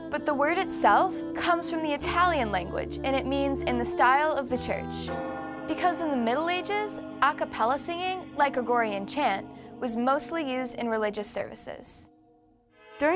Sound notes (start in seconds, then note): 5.2 bell tolls, monks chant song